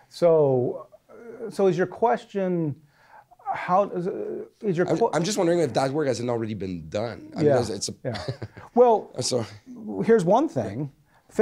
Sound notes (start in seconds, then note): 4.5 voiceover